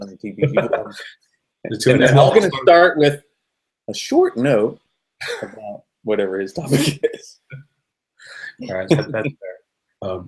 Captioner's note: laughing